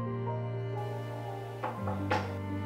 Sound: knocks

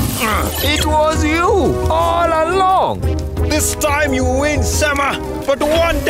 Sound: grunting

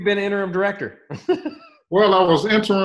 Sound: laughs

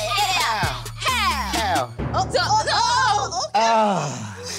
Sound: women hollering

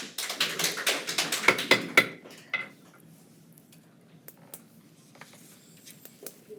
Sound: attendees applaud; gavel pounds

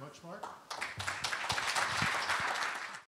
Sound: applause

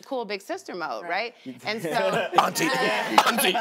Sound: laughs; laughter; coughs

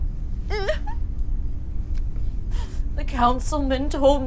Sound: Grace sobbing

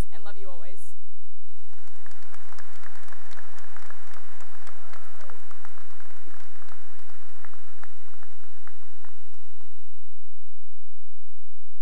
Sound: cheering and applause

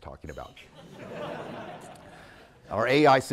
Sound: audience laughing

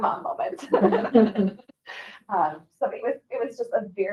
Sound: group laughing

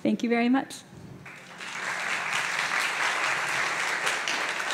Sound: applause

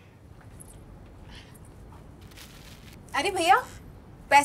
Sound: none

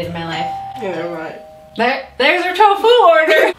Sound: door bell rings; women laugh

